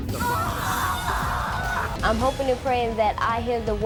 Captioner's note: screaming